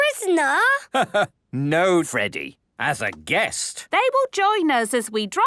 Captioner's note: laugh